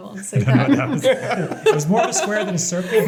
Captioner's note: everybody laughing